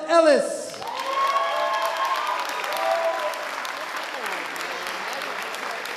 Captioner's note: audience applauding and cheering